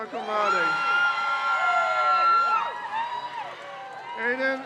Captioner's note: crowd cheers